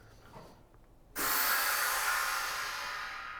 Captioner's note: air compressor whirring